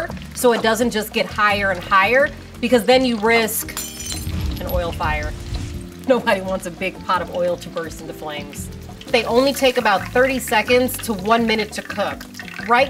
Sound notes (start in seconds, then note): 3.6 glass breaking; 4.1 flames blowing